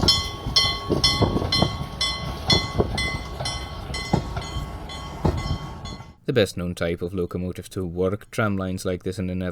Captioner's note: steam bell ringing